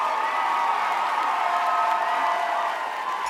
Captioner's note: crowd cheers loudly